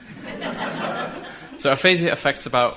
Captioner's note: audience laughs